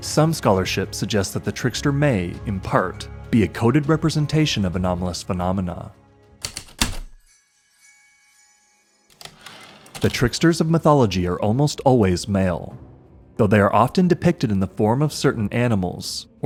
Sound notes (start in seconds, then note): 6.4 heavy typewriter keystrokes, light chimes, typewriter return slide